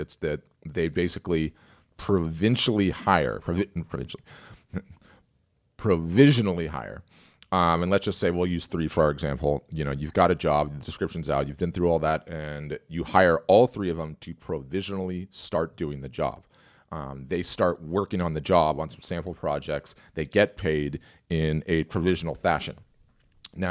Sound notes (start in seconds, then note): 4.7 chuckles